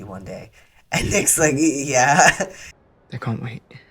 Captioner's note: laugh